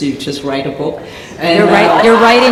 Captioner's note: laughter